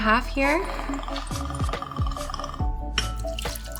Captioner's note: liquid pouring; glass clanking